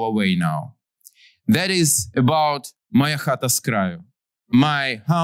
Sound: non-english

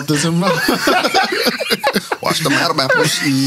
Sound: laughing

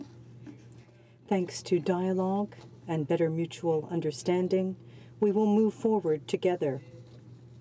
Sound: speaking French

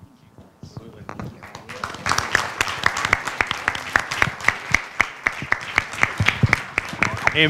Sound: applause

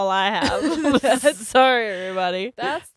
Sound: both laugh

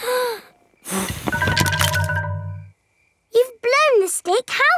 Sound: blowing

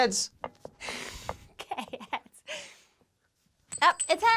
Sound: laughs

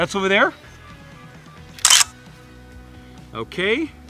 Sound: camera shuttering

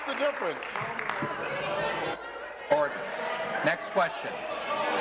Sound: some Applause

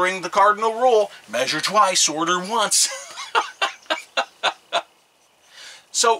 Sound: laughs

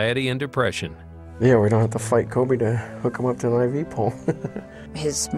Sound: laughs

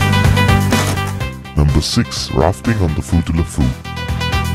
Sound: male Voice

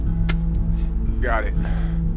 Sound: Charles spitting

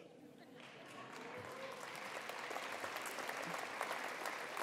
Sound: attendees applauding

